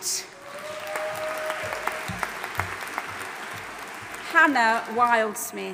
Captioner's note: audience applauding and cheering